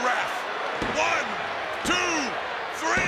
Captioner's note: hand pounding